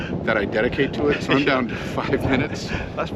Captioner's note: laughs